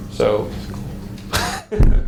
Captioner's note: whispers; laughs